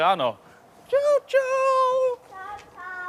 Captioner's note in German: Mit verstellter Stimme